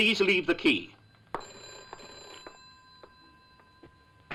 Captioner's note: phone ringing